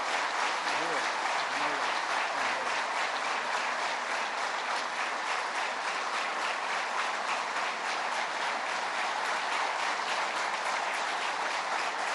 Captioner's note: applause